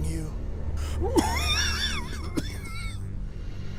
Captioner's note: more wheezing